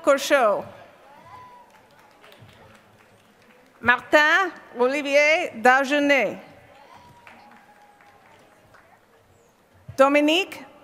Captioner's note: applause